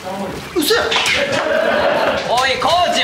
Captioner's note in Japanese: 笑い